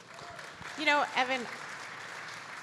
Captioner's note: audience applauding